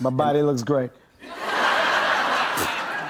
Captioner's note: laughter